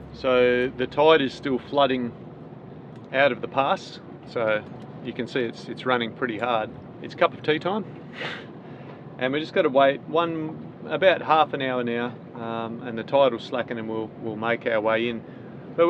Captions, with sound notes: So, the tide is still flooding out of the past, so you can see it's running pretty hard. It's cup of tea time. (laughs) And we've just gotta wait about half an hour now and the tide will slacken and we'll make our way in.